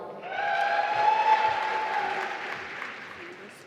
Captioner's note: applause